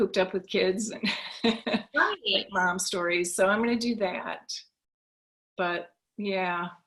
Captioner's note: laughs